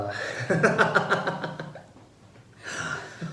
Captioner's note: both laugh